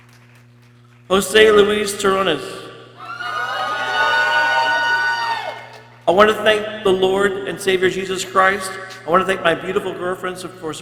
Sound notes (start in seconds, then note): 2.9 people cheering